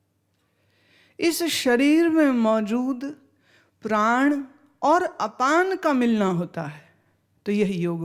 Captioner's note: outward breath